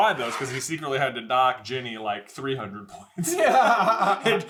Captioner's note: laughing